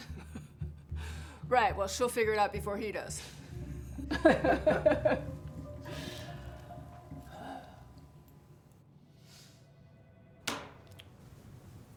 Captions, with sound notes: - [laughs] Right. Well, she'll figure it out before he does. [both laughing]